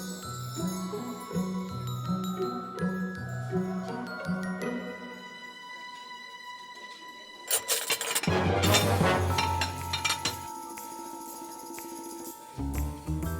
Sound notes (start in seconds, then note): 7.4 dishes clinking